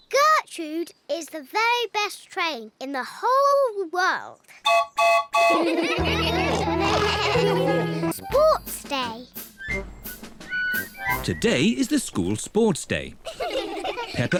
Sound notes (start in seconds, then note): 4.6 toots horn; 5.4 all laugh; 13.2 kids giggle